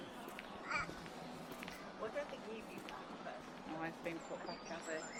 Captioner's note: baby says 'ah!'